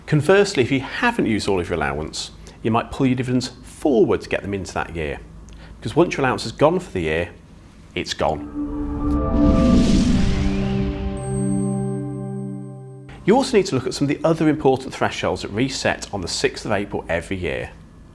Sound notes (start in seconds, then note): 8.2 gentle music; 8.3 graphics whooshing